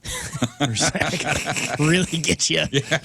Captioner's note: laughing